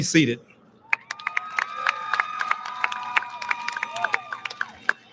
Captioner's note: audience lauds